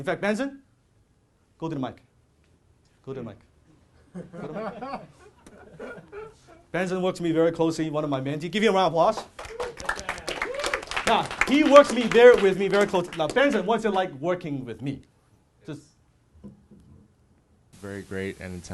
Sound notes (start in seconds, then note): 4.0 laughing; 11.0 applause